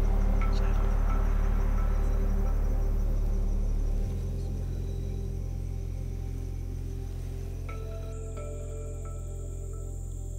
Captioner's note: whispering